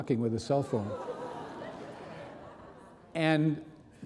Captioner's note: audience laughing